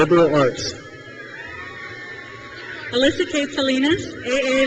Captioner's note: crowd cheers